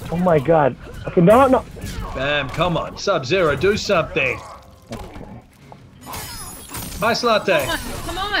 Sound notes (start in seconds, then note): 5.8 video game fight sounds